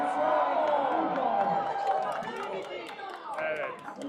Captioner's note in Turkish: coşkulu tezahürat